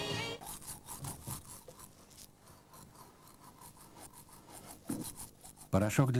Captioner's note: rustling